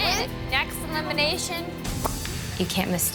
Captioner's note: smacks lips